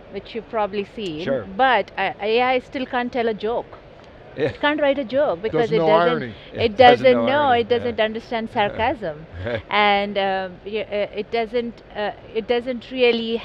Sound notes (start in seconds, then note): 5.5 laughs